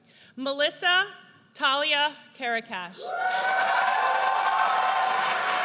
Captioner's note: audience cheers